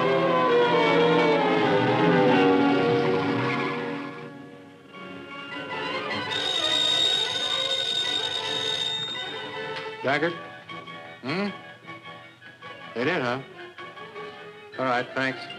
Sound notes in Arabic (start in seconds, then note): 6.0 اصوات صرير الاطارات; 9.0 رنين